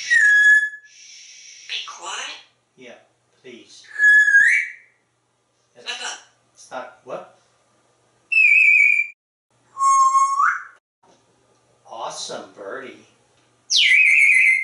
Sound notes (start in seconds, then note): 0.0 whistle; 3.9 whistle; 9.7 whistle; 13.7 whistle